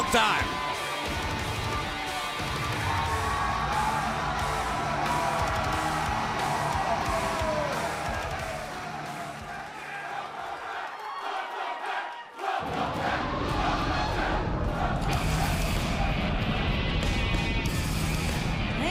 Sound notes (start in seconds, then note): 4.6 cheers & applause; 11.5 fans chanting